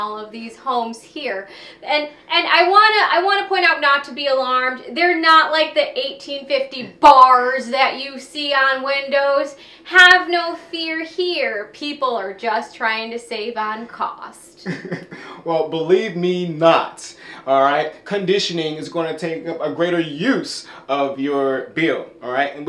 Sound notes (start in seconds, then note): 14.6 chuckles